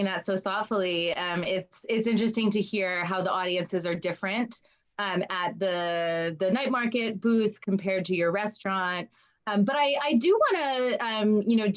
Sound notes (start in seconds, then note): none